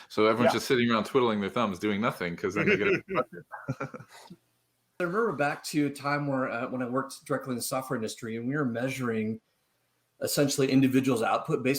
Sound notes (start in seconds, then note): 2.5 laughs